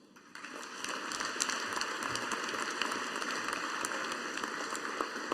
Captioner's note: audience applauding